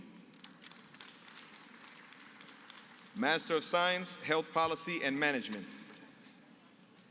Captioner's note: applause